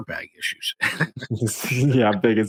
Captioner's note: chuckling